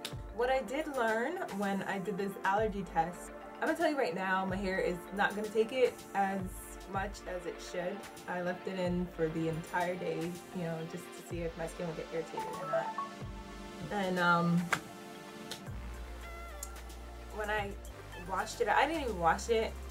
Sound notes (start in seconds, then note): 12.4 phone beeps; 14.6 claps